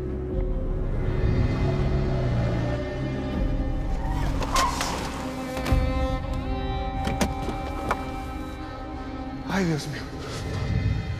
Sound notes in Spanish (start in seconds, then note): 5.2 Chirrido de llantas